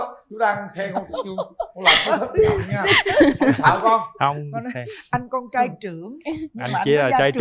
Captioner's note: laughter